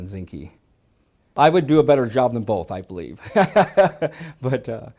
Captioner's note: laughs